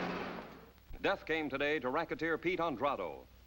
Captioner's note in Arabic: تعليق صوتي